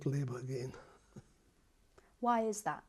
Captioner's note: laughs